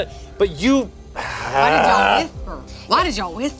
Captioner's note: groans